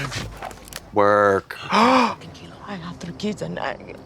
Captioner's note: pink Haired Ladies Gasp